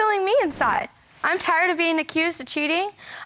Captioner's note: none